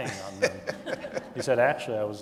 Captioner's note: audience laughing